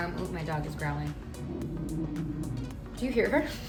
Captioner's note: dog growls; laughs